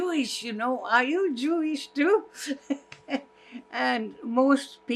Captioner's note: laughing